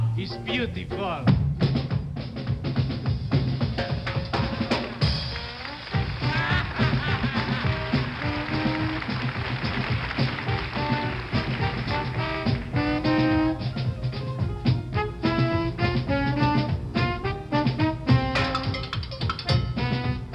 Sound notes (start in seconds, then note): 4.9 applause; 5.9 laughs